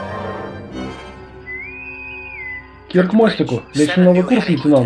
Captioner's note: intercom whistles